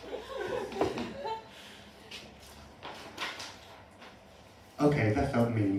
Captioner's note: laughter